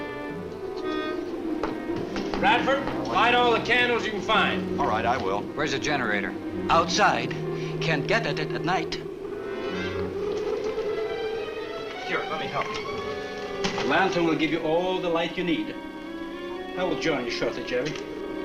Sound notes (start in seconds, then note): 9.7 muffled wind howls